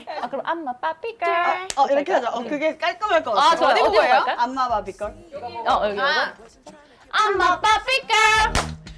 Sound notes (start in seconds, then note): 1.6 clap